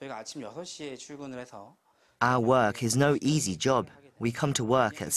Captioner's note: Korean